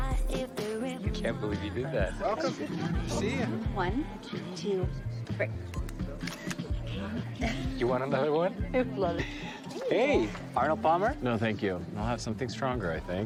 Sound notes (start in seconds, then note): 6.2 shutter clicks